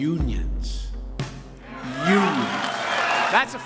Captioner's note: applause